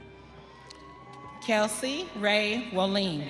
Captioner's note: audience cheering